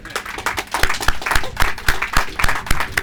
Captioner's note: applause